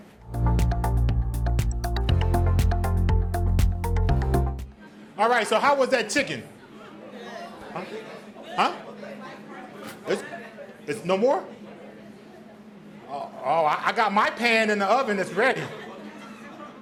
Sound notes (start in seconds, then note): 3.1 upbeat music; 9.7 audience responds